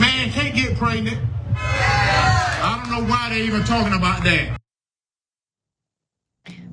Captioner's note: applause